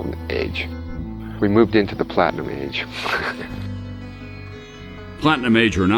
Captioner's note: laughs